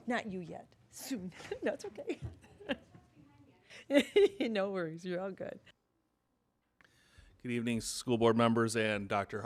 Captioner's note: laughing